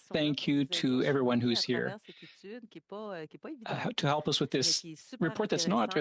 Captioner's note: speaking French